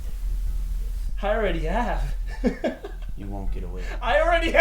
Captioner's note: laughs maniacally